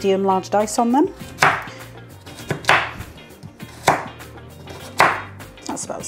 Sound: chop chop chop

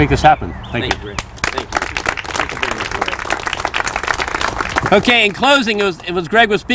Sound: applause

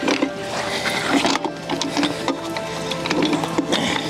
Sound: hook clanging

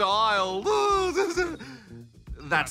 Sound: chuckles

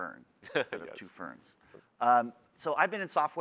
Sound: laughs

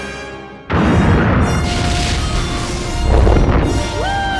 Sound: explosion

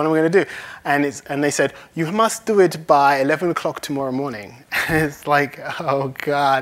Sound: laughs

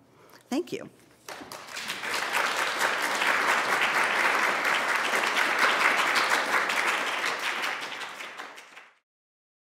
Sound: applause

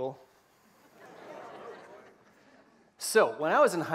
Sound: laughter

